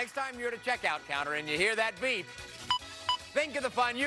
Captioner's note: scanner beeps